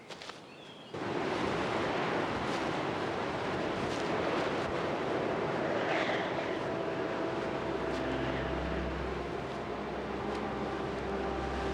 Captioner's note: rush of wind & crash of surf